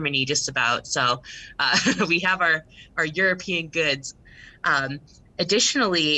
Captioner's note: chuckles